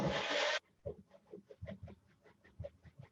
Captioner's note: whirring blender; muted kitchen noises